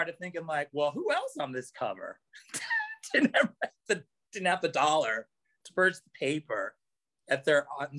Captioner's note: laughs